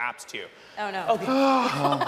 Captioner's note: laughing; sighs; audience laughing